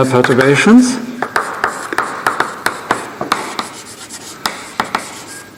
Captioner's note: keyboard tapping